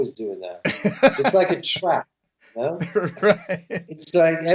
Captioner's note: laughter